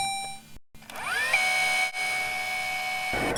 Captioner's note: tape rewinding